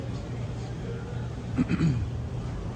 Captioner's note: clears throat